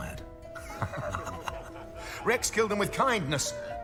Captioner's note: laughs